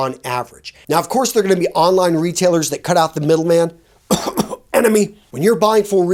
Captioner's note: coughs